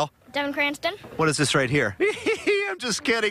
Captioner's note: laughter